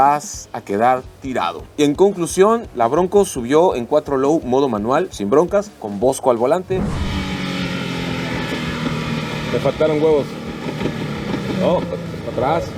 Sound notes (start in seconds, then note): 6.7 engine revving